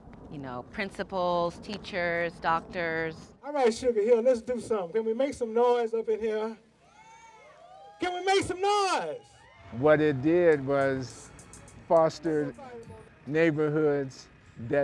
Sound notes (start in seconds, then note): 6.8 audience yells